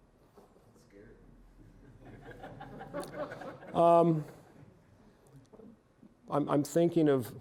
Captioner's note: audience laughing